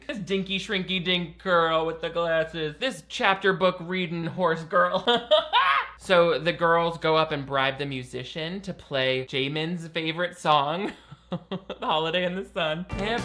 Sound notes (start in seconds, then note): 5.0 laughs; 11.2 laughs